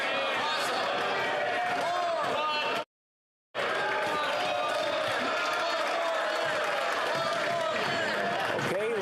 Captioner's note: yelling